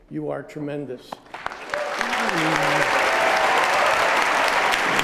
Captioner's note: applause